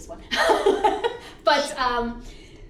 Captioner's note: whispers Affirmatively